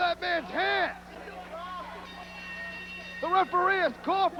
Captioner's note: bell ringing